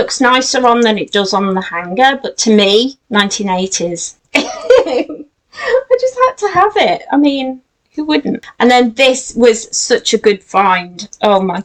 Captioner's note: giggles